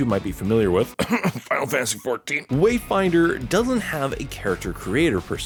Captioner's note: cough